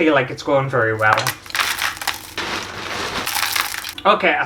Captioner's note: glass Clattering